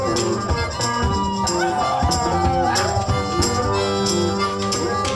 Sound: howling repeats

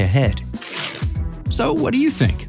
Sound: paper ripping

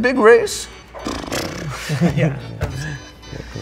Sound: both making horse noises

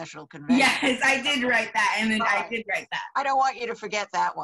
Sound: laughs

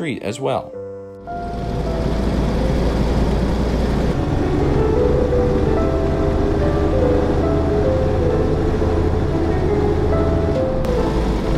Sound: car and road noises

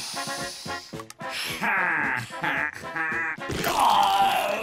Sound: laughing

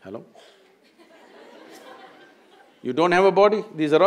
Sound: laughter

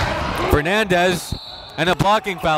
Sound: whistle blows

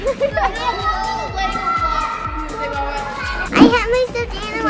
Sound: everyone shouting at once

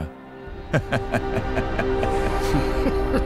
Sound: laughs

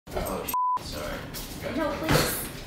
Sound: beep

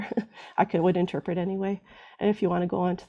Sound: laughs

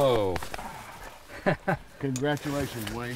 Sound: laughs

